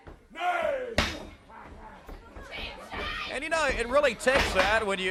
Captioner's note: crowd chatter